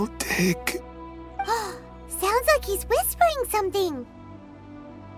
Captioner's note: gasp